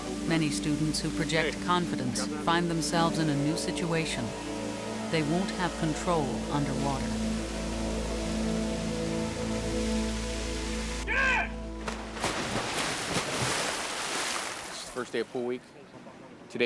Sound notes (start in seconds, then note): 7.2 tense music; 11.8 water splashes